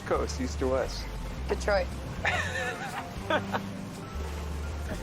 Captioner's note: laughs